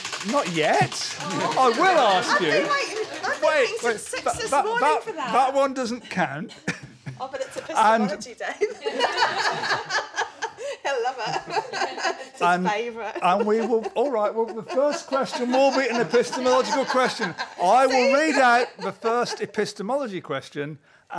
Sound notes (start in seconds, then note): 8.7 laughter